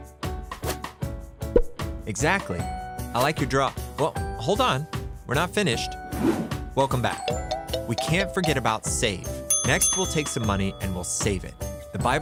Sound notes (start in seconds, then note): 6.4 whooshing